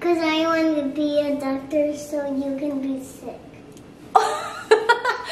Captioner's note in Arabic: هههههه